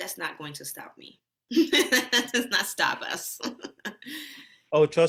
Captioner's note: laughs